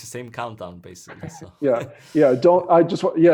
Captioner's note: laughs